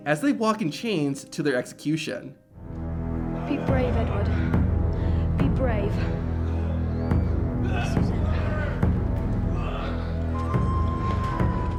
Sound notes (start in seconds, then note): 2.9 soft ominous music; 9.4 crowd shouting